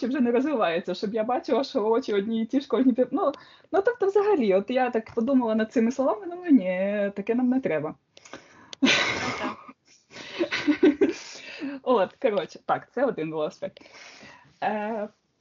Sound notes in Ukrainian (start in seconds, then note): 8.8 сміх